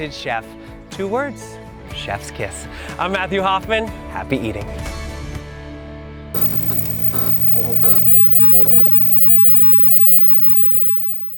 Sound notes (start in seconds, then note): 6.3 logo buzzes